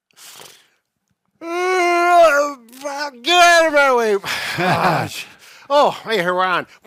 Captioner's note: yawns